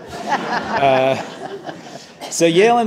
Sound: audience laughing

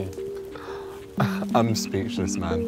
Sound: laughing

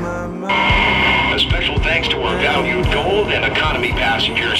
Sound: over intercom

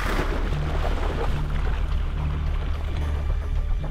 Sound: splashing sounds

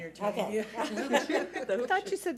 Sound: laughing

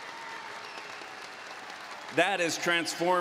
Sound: applause

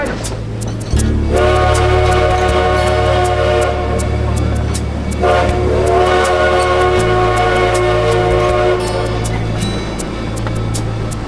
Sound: train Whistle

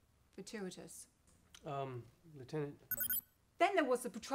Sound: communicator continues to chirp

